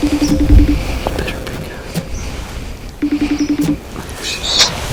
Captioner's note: sound of phone ringing